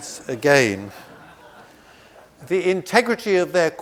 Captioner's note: audience laughs